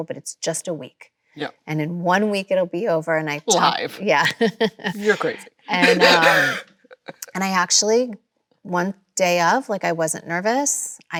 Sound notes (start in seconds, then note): 3.4 Kim laughs